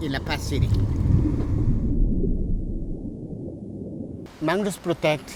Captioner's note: water gurgling